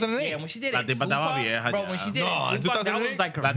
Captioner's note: speaking Spanish; speaking Spanish